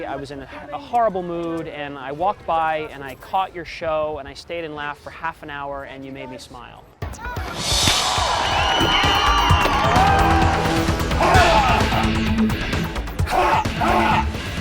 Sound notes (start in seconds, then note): 7.1 thrilling music; 7.5 audience cheering; 11.1 yelling